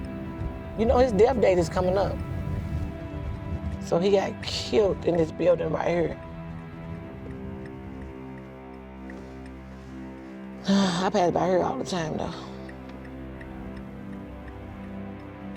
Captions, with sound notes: You know, his death date is coming up. So he got killed in this building right here. [ Turn signal clicking ] [Sighing] I pass by here all the time, though.